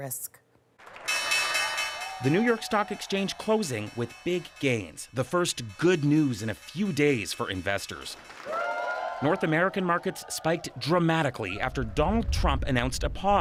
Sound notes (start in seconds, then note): 0.8 bell ringing; 9.8 cheers and Applause